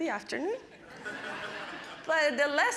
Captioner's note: audience laughing